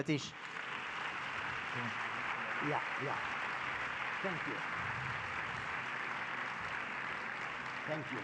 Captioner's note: public applause